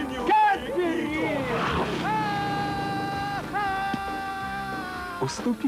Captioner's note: scream